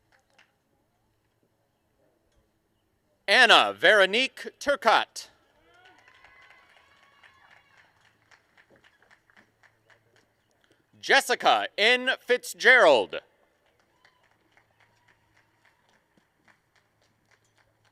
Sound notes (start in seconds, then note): 0.0 applause and cheering; 5.6 applause; 13.6 applause and cheering